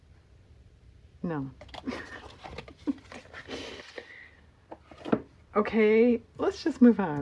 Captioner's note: laughs